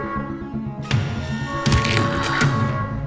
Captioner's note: gasps and bones crack